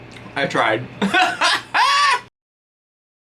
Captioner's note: laughs